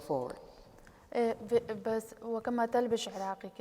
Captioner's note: speaking kurdish